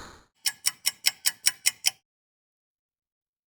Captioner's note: clock ticking